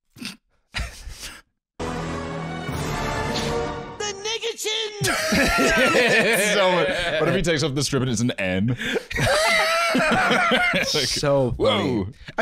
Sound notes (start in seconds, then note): 0.8 both laughing softly; 5.0 both laughing